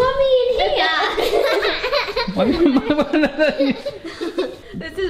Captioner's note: all laughing